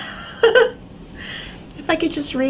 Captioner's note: chuckles softly